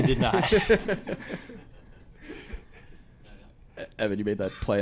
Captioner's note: all laughing